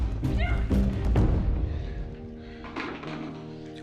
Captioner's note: heavy breathing